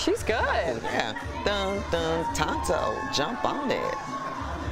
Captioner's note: cheering